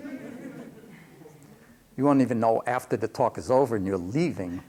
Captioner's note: laughter